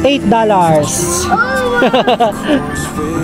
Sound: ohhh

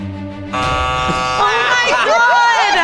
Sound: buzzer; everyone laughs

